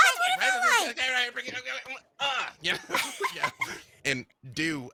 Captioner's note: murmurs